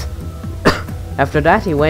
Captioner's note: cough